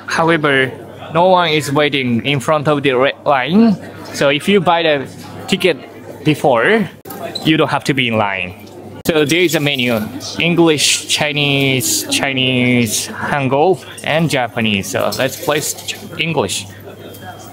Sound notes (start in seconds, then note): 13.3 Korean